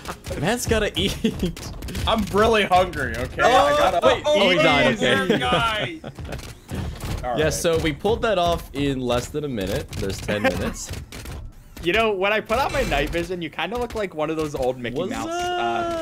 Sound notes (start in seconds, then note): 0.0 laughter; 3.4 incohesive cheering